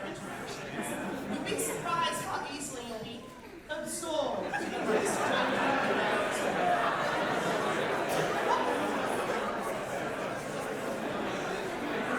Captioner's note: audience chatter